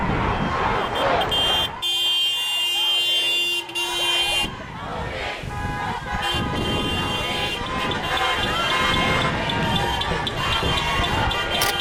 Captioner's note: car horns blaring